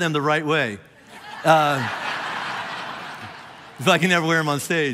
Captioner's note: congregation laughing